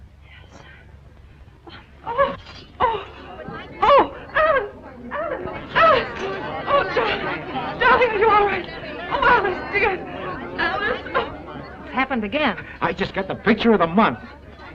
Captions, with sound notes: - Yes. (moans) - Oh, oh. Oh, Alice (chattering) Alice, Alice. Oh, darling. Darling, are you all right? Oh, Alice dear. - It happened again. - I just got the best picture of the month.